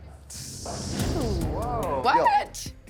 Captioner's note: all gasping